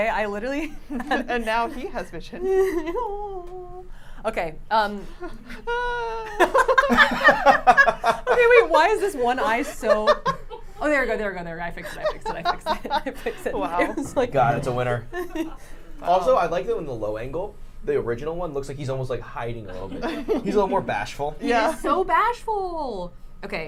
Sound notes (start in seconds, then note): 7.5 everyone laughs